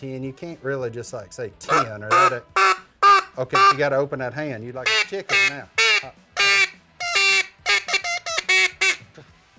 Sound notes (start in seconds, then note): 1.7 duck call noise